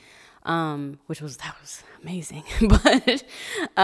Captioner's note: laughing